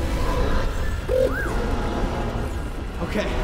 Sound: confident whistle

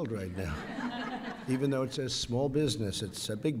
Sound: laughter

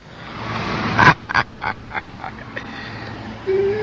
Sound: laughs

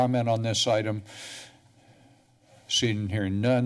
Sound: pause

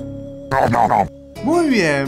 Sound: nom nom nom

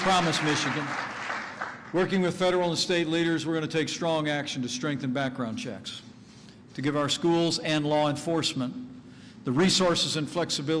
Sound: applause

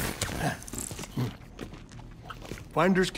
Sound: chewing

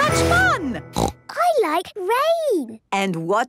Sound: snorting

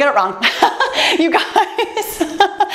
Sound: laughs

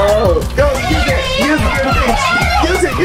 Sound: everyone yelling

